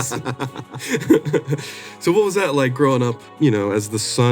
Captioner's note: chuckles